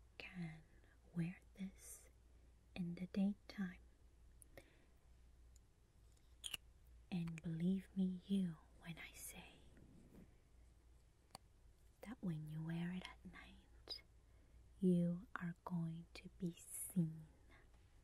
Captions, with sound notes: can wear this in the day time (squishy liquid lipstick sound) and believe me you when I say, that when you wear it at night you are going to be seen